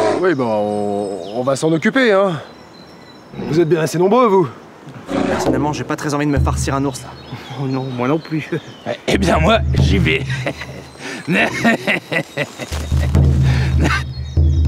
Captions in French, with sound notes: - Oui bah on va s'en occuper hein... Vous êtes bien assez nombreux vous ! - Oui enfin personnellement je n'ai pas très envie de me farcir un ours là... - Oh non moi non plus. - Et bien moi j'y vais ! (rire inquiétant) (tambours)